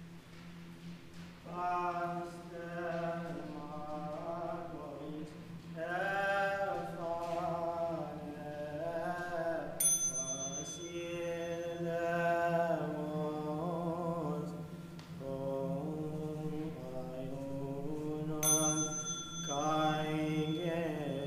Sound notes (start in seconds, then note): 2.0 man singing in Greek; 9.8 bell chimes; 12.3 man singing in Greek; 18.4 bell chimes; 21.0 man singing in Greek